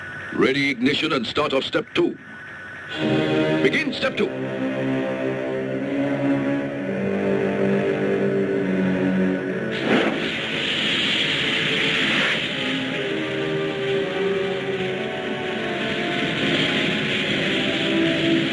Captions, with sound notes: Ready ignition and start of step two. Begin step two. (dramatic music) (fire hissing)